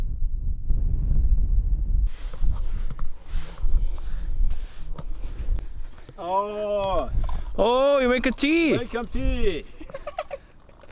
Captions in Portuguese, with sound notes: [passos na areia] - Óóóó - Ó, você está fazendo chá? Estou fazendo chá!